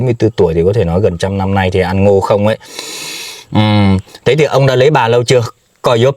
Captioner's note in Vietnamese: khịt mũi